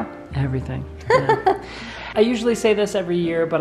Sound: laughing

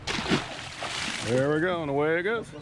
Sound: fish splashing

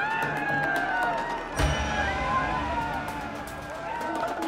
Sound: crowd cheering

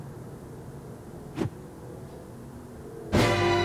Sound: swoosh

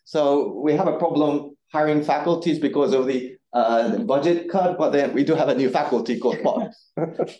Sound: audience chuckling

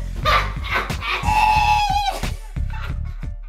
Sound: mom laughs

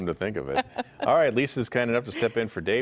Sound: laughter

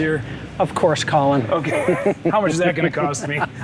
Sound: chuckles

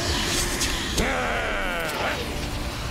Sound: growls

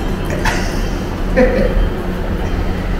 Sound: laughs

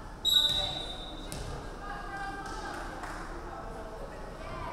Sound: referee whistling

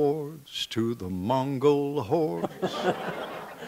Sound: background laughter

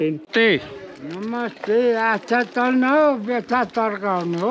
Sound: man Talking in Nepalese

